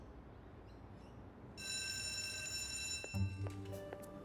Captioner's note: bell rings